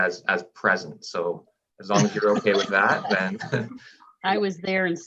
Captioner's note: chuckles